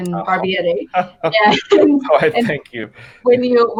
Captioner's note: laughing